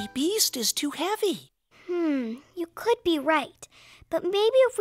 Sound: whispering

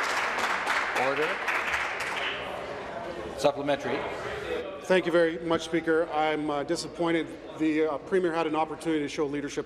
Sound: applause

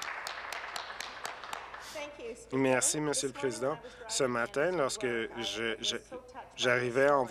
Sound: some applause

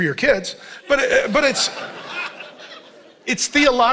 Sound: congregation laughing

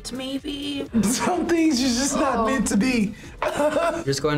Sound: laughs

